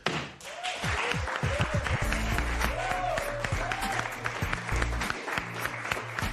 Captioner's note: cheers and applause